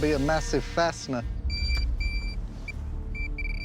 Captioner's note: beeping